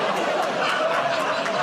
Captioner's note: audience "Oh"s